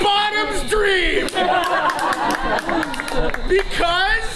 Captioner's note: audience laughs; audience applauds